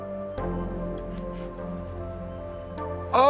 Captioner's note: sniffs